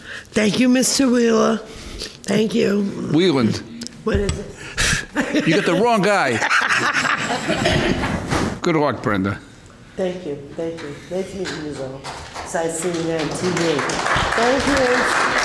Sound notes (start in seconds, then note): 6.6 laughter